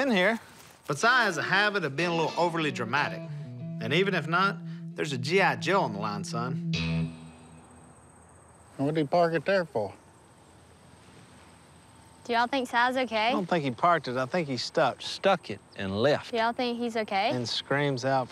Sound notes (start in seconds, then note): none